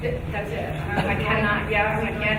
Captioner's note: speaking faintly